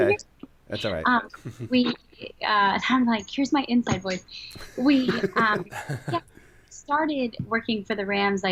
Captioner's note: chuckle; laughter